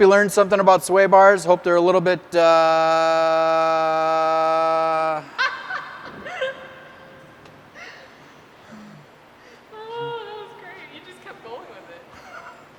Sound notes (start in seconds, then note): 2.9 laughs